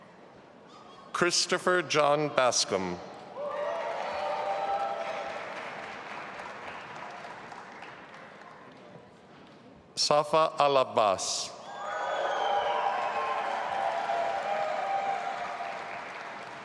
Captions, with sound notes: Christopher John Bascomb. (audience applauding) Safa Alabbas. (audience applauding and cheering)